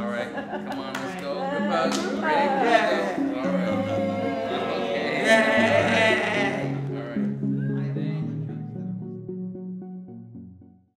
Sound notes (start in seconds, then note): 4.6 everyone cheers